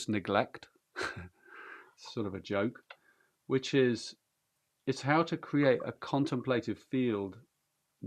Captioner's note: chuckles